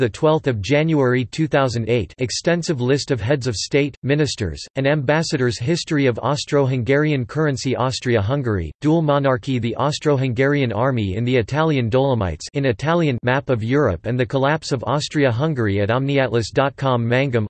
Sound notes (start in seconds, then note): 12.5 in Italian